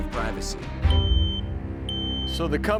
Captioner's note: alarm beeping